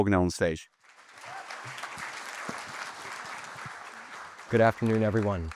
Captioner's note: audience applauding